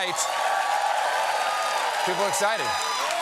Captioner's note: cheers and applause